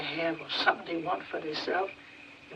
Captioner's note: none